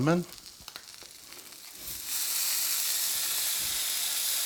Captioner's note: fish sizzling